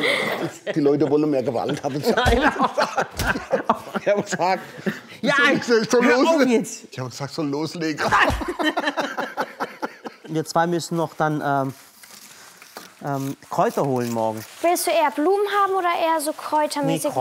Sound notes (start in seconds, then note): 8.0 Sie lachen